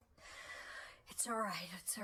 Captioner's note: inhale